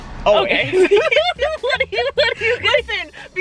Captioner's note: both laughing